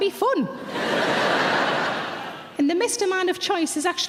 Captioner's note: audience laughs